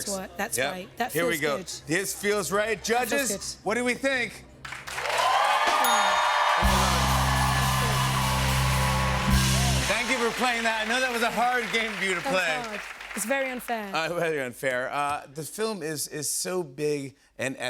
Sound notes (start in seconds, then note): 4.5 cheers and applause; 5.8 ding!